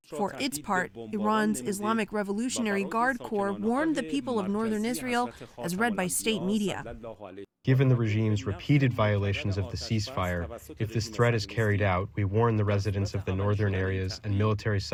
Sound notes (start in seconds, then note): 7.6 through translator